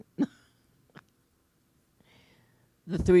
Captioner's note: laughing